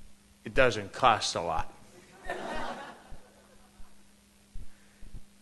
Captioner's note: laughter